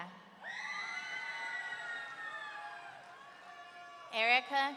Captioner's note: audience members screaming